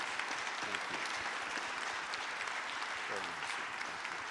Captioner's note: audience applauding